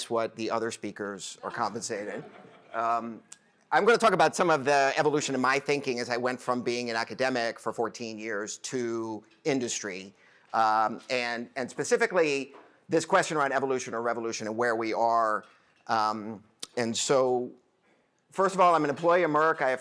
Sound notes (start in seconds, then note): 1.4 laughter